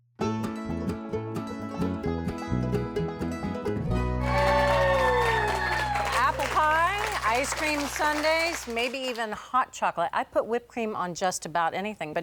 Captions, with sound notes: (upbeat bluegrass music) (audience applauding) (audience cheering) Apple pie, ice-cream sundaes, maybe even hot chocolate. I put whipped cream on just about anything.